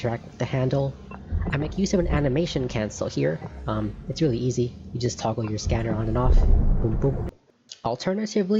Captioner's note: boom boom